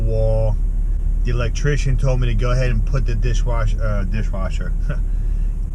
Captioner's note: chuckle